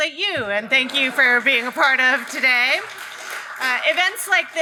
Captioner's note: audience applauds